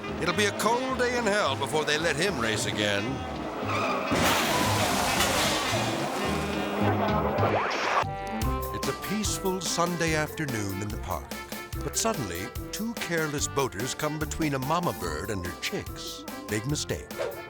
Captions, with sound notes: It'll be a cold day in hell before they let him race again. (vehicles skidding and crashing) (melodic music) (screen static) (lively music) It's a peaceful Sunday afternoon in the park. But suddenly, two careless boaters come between a momma bird and her chicks. Big mistake.